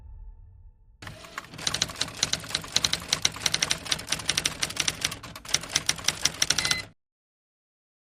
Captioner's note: typewriter noises